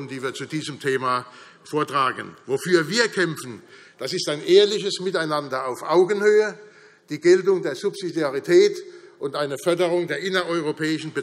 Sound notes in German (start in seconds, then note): none